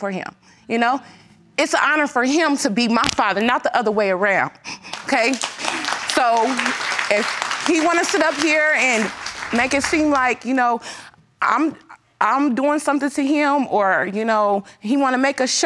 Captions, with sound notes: You know? It's an honor for him to be my father, not the other way around. Okay, so... (AUDIENCE CLAPPING) If he wants to stand up here and make it seem like, you know, I'm doing something to him or he wanna make a show...